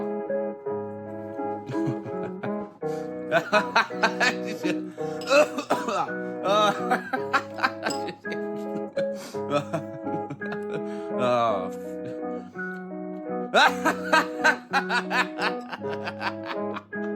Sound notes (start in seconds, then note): 0.1 playful music continues; 3.3 man laughs; 13.5 man continues laughs